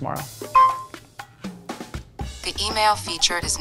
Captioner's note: pin beeping